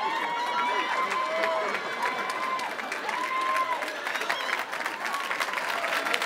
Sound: audience applauding and cheering

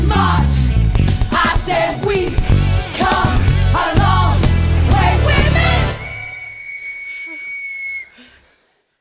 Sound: whistles

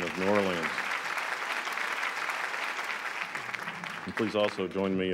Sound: applause

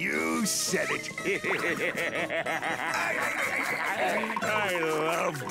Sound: laughing

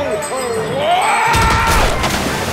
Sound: yelling

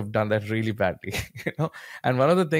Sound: chuckles

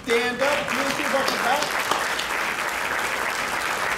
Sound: crowd clapping

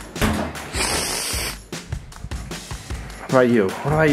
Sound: sniffing

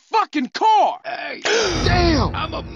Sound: Carl gasp

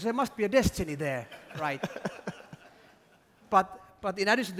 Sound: laughter

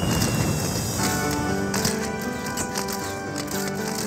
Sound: cameras clicking

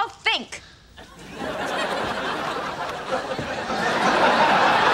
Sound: audience laughing

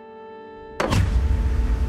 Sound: thud

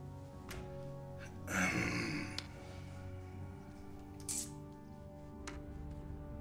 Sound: clears throat

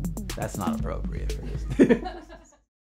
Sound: laughs

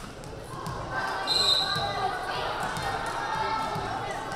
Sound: whistle blaring

